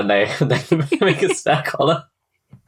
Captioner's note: laughing